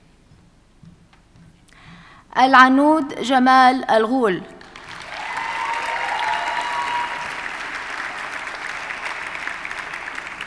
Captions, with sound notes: Alanud Shamal Algul. (audience cheers and applauds)